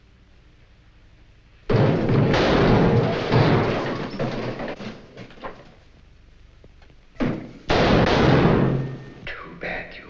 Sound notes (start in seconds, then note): 1.7 gunshot bangs; 1.8 keg rumbling; 7.2 gunshots banging